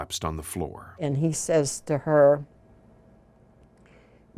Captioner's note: speaking foreign language